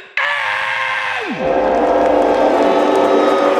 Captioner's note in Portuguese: torcida vaiando